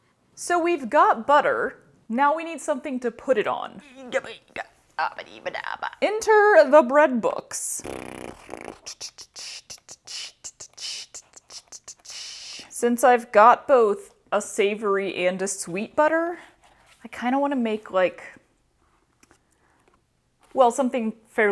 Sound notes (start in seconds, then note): 3.8 lyrical struggle noises; 7.7 mouth fart into mouth percussion